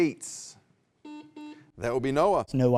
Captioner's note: buzzer beeps